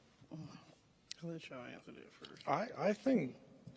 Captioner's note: murmuring